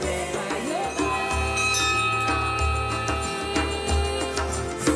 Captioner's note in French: son de la cloche du temple